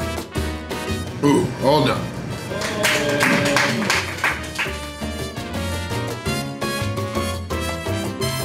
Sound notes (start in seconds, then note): 2.4 crowd clapping